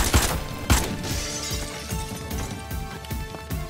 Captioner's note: Breaking glass